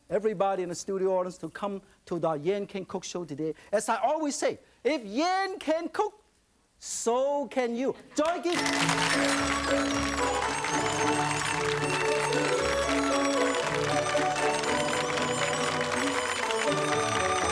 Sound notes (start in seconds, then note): 8.2 audience clapping; 8.5 upbeat flute music